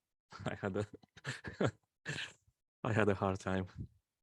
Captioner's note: laughs